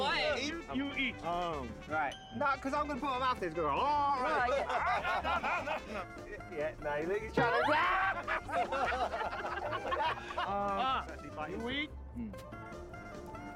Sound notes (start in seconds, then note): 7.3 laughter